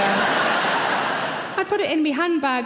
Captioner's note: audience laughs